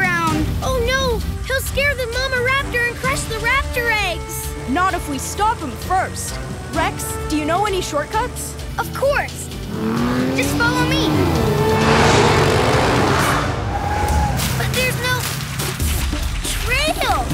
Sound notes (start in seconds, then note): none